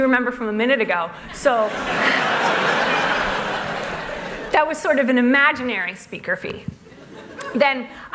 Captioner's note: laughter